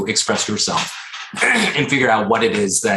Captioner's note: clearing throat